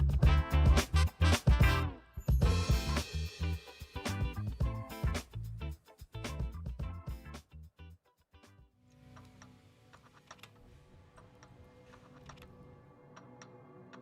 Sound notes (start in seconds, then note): 8.1 intriguing orchestral music; 8.1 mechanisms clacking